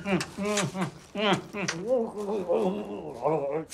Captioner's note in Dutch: smakgeluiden